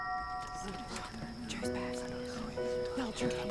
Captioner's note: whispering